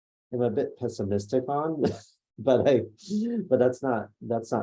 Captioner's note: laughs